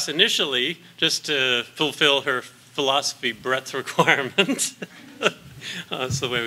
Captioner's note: laughs